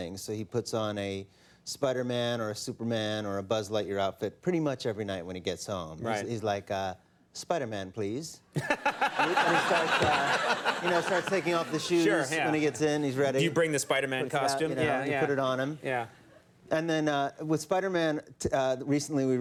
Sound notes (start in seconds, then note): 8.5 audience laughing; 8.6 Conan laughing; 12.6 laughs